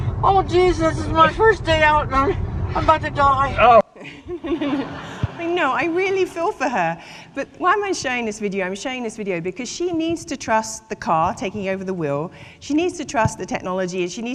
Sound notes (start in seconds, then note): 4.0 audience laughing